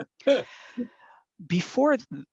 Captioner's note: laughs